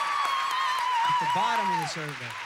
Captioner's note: audience applauding